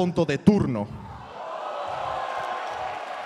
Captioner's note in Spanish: Aplausos